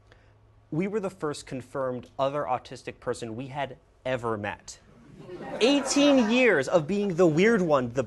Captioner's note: laughter